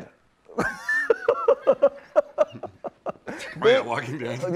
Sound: laughs

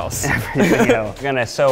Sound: chuckling

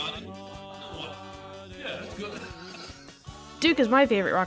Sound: laughs

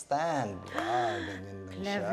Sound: gasps

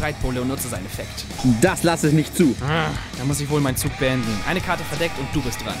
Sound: grumble

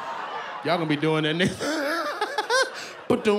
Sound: laughs

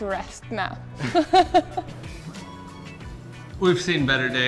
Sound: laughs

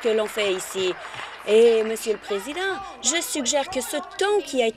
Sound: applause

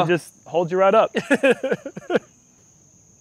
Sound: laughter

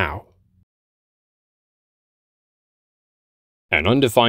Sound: uncomfortable silence

